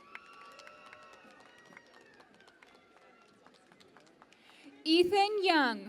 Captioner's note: cheering and Applause